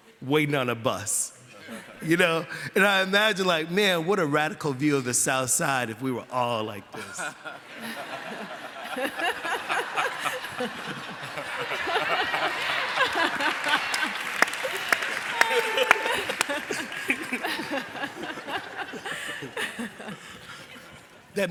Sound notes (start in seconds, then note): 7.4 laughter; 13.3 applause; 16.8 laughter